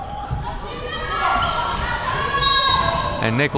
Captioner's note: players yelling